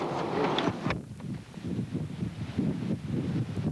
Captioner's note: winds whipping